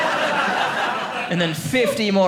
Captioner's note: audience laughing